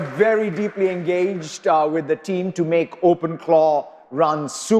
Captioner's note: applause